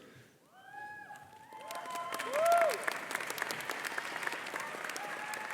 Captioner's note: audience applause